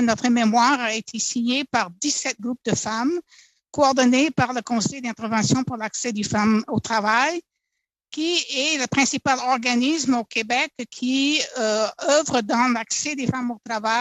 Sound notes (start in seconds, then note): 1.1 speaking French